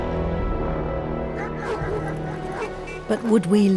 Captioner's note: solemn music; dog barks